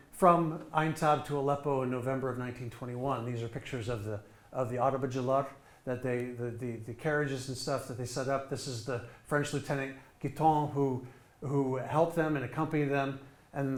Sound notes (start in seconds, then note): 4.9 speaking in foreign language